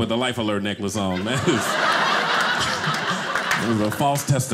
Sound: audience laughing

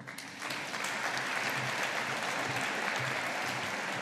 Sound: audience applauding

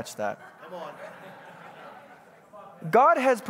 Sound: congregants bustling

